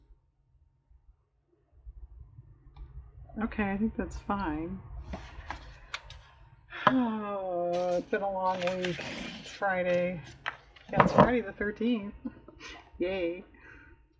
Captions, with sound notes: okay i think that's fine (sighs) oh it's been a long week, it's Friday, it's Friday the 13th, yay